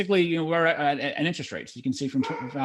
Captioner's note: dog barks